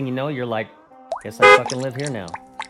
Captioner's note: car horn